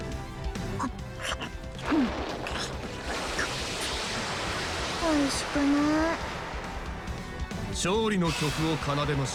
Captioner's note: Munch